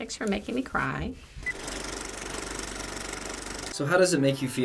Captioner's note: movie reel clicks